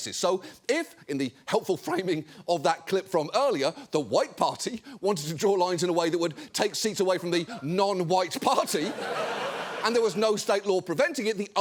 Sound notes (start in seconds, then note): 8.3 studio audience laughing